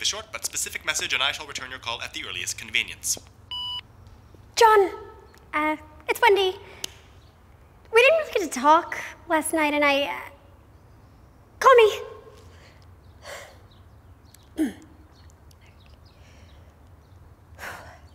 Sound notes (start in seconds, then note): 3.5 beep; 13.2 sighing